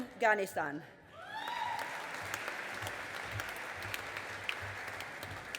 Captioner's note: audience applauding